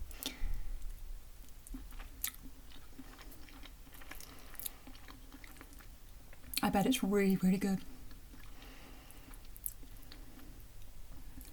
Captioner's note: nomNomNom